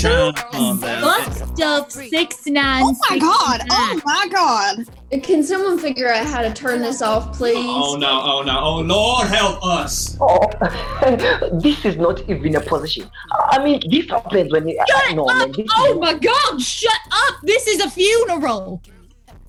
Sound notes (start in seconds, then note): 10.5 laughing